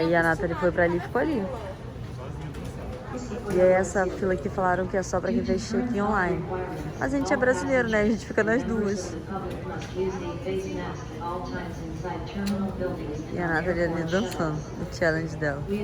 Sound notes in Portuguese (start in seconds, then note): 10.3 alto-falante ao fundo